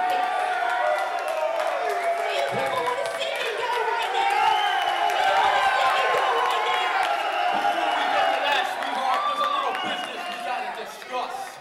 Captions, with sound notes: IN MY FACE. YOU WANT TO SEE US GO RIGHT NOW? [ CROWD CHEERING ]